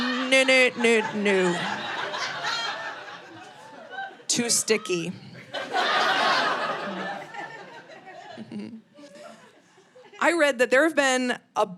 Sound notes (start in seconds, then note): 5.4 audience laughing